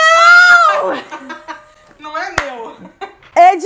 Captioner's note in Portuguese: rindo